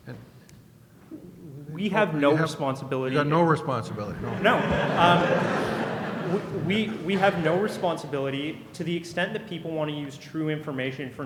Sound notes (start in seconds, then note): 3.2 voiceover